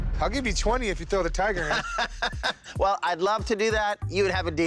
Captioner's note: laughs